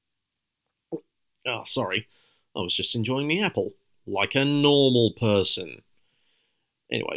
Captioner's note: gulps